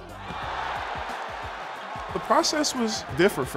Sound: crowd cheering

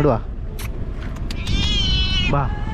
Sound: meow

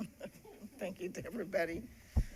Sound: laughing

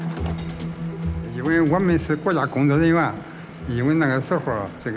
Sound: speaking Chinese

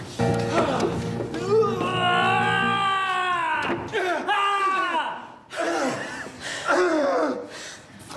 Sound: agonizing murder screams

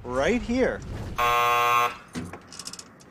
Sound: door buzzer

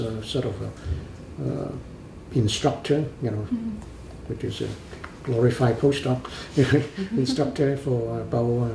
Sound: laughs

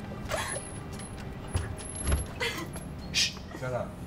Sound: woman sobbing

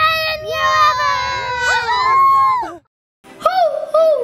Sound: all cheer

